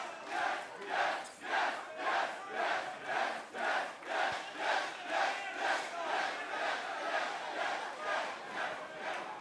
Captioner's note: crowd cheering; crowd chatter